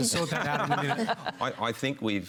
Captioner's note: laughter